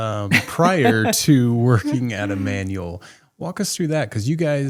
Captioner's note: laughing